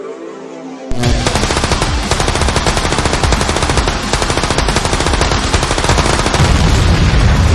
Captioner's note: tense music; guns firing; explosion booming